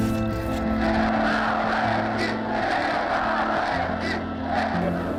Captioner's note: ukrainian crowd chanting "Independence"